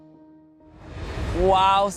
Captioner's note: air whooshes